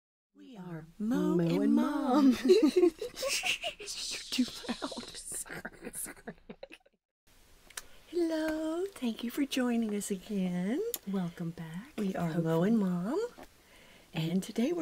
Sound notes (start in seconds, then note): 2.2 laughing; 6.3 laughing continues